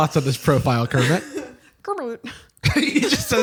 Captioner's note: Kermit voice; laughing